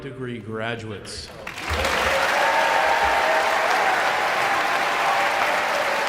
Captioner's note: audience cheering and applauding